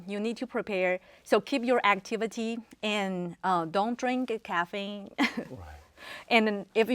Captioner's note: laughs